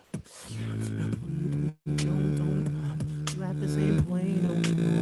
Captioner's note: beatboxing